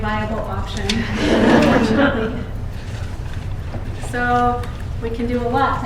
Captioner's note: laughter